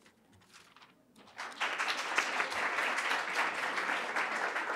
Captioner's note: applause